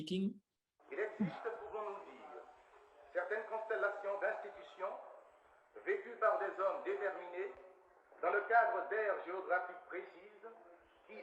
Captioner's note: non-english speech